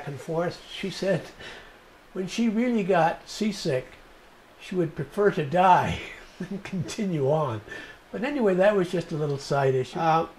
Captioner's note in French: rires